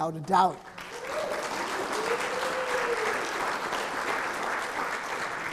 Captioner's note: audience clapping and cheering